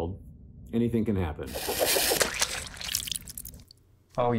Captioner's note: boomerang sound